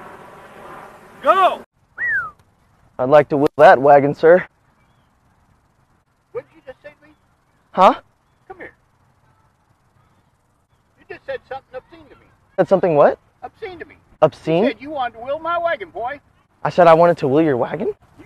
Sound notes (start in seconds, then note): 1.9 whistles